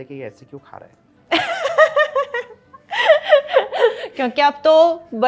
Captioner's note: laughter